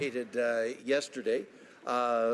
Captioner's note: some Applause